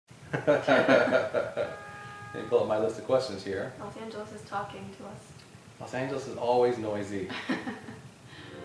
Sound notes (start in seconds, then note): 0.3 laughter; 1.1 car honks; 7.6 laughs